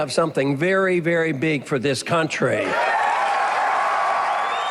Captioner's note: cheers